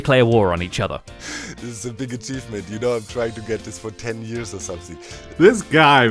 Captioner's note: laughs